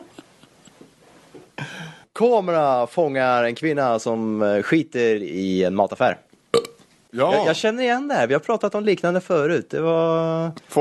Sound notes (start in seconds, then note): 6.5 burp